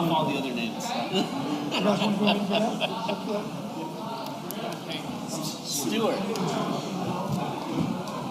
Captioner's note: laughter